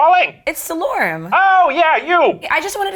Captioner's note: voiceover